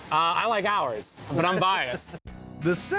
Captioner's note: laughs